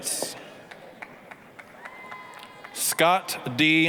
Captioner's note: applause, cheering